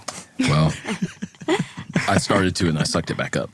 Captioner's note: laughing